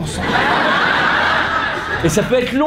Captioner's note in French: rires